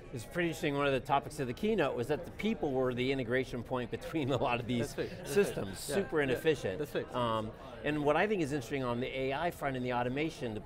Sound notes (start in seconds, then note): 4.3 laughs